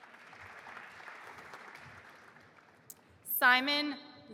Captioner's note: audience applauding